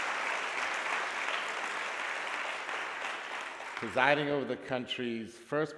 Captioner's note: applause